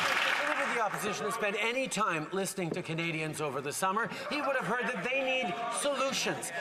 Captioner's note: some Applause